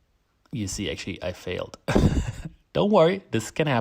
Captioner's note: laughs